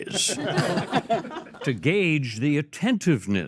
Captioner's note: all laugh